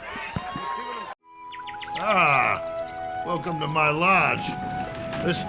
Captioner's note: applause